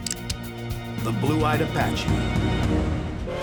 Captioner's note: cocks pistol